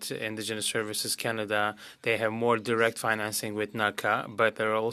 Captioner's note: speaking French